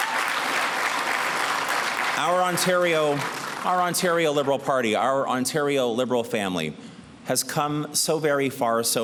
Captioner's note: applause